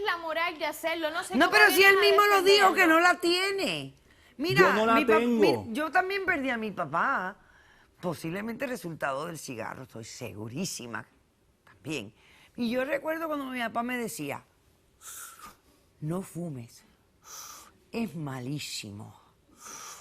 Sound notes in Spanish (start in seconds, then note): 15.0 Inhala; 17.3 Inhala; 19.5 Inhala